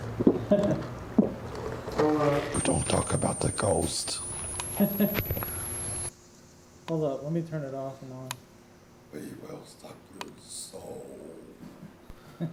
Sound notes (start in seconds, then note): 0.3 throat gulping; 0.4 chuckling; 4.8 microphone tuning; 12.2 chuckling